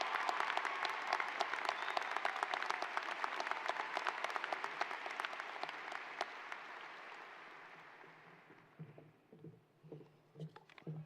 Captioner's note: applause